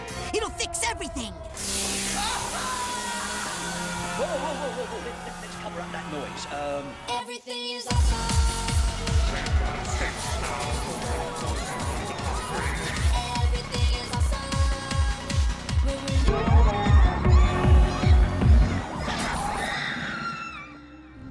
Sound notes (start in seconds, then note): 0.0 industrial sounds and screaming; 9.3 robot voice; 16.0 screams drowned out by music